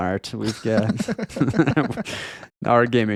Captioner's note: laughing